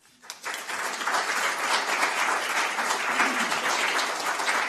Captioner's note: applause